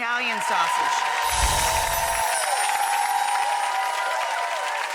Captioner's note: audience applauding